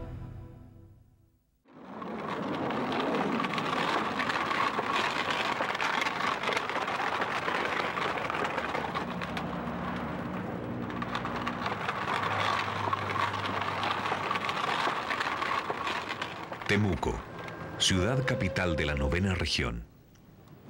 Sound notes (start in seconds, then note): 2.1 cart noise